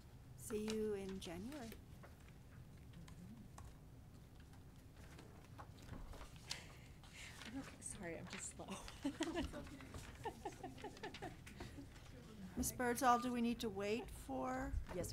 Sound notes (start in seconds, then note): 8.7 laughs